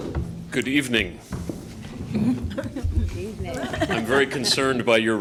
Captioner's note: laughter